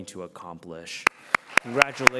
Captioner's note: applause